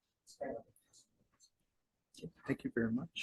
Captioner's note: board member faintly speaks